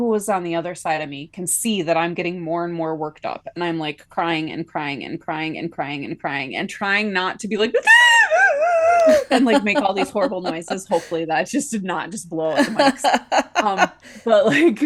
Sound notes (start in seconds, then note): 8.5 loud sob noise